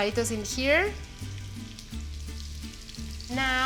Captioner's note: sizzling